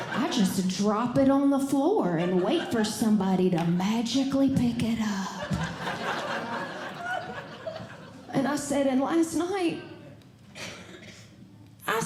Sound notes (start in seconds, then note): 5.4 audience Laughing